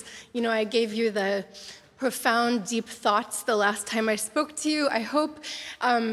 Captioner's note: wryly